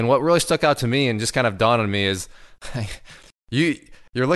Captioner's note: chuckles